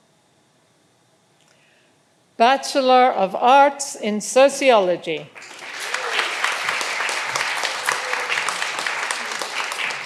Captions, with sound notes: Bachelor of Arts in Sociology. (all applauding)